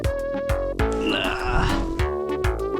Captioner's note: groans; upbeat music